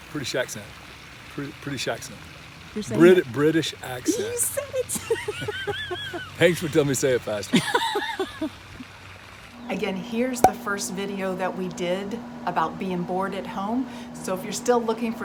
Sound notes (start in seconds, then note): 3.9 laughs; 7.4 laughing